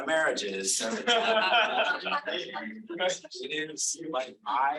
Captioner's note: audience laughing